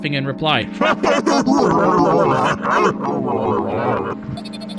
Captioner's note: creepy laugh